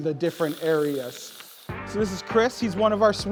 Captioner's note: cream squeaking